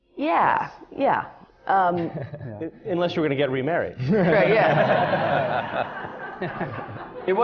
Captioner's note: laughter